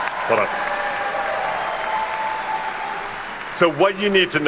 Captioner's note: attendees cheer and clap